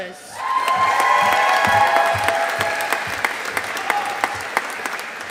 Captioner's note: audience applauding